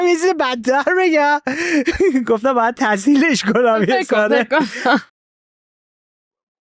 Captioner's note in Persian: خنده